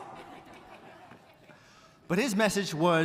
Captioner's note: audience chuckling